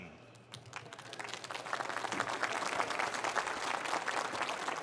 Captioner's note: applause